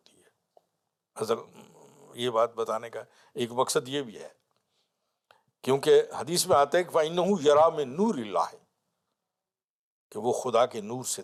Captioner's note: Arabic